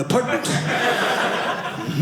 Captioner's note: audience laughing